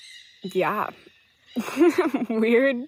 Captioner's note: laughs